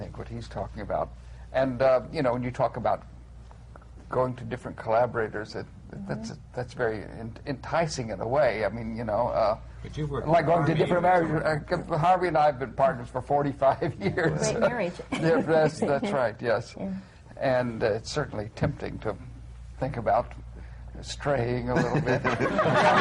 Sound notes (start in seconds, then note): 14.3 laughs; 21.7 laughter